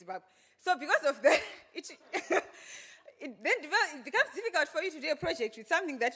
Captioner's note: laughs